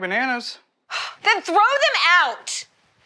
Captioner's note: Ruth scoffs